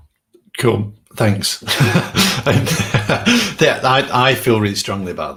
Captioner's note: laughs